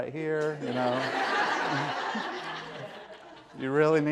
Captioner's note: laughter